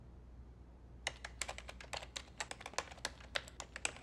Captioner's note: keypad beeping